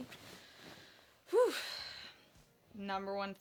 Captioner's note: exhales loudly